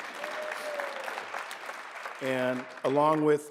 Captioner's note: applause